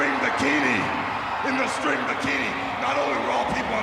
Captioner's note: audience cheering